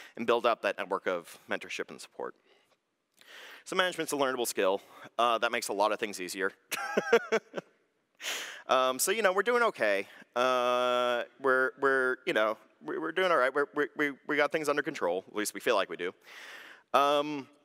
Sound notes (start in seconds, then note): 6.8 laughs